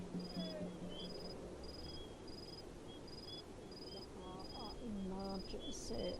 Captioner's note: sounds of birds and light wind